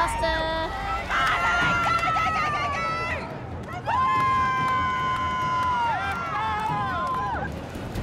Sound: cheering

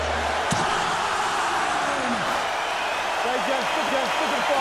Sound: crowd cheering

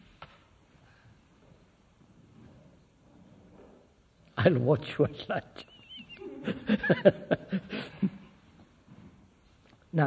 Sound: laughs

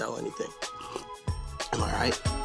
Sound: slurping

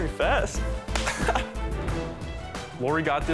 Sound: laughs

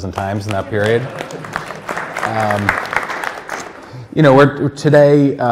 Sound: audience applauding

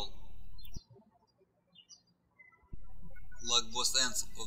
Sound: birds chirping

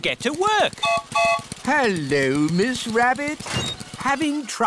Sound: gertrude's whistle blows

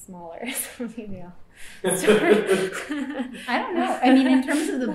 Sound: laughter

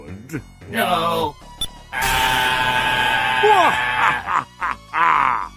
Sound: screams as they are chopped to pieces

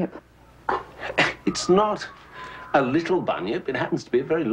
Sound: scoffs

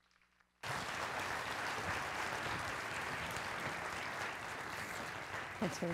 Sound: applause

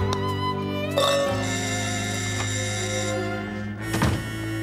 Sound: doorbell

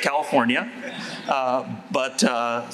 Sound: laughter

